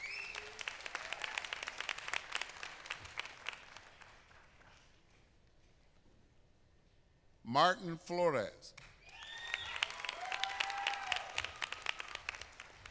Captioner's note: applause